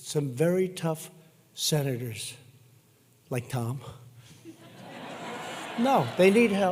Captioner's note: laughter